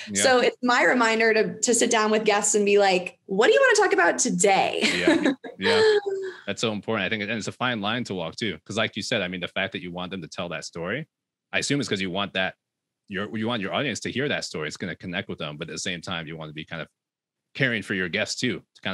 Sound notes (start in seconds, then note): 4.8 laughs